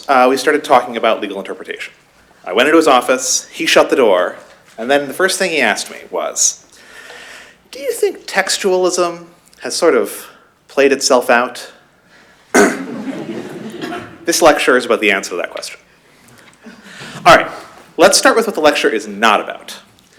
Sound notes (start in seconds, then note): 12.6 laughter